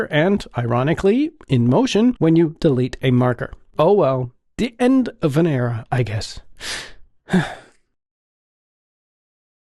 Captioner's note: sigh